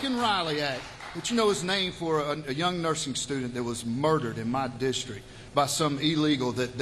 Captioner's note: cheers